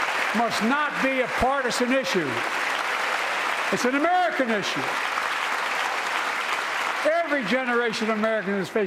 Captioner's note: applause